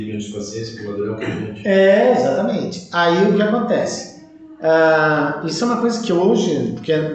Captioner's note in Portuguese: limpando a garganta